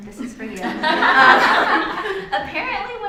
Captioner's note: laughter